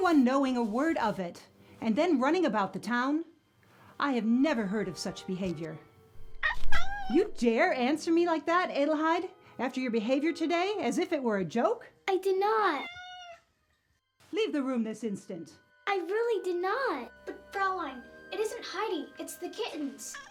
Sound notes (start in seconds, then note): 12.8 kitten crying